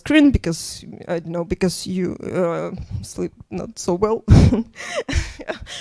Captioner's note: laughs